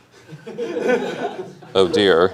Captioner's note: laughter